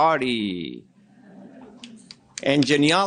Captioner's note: audience laughing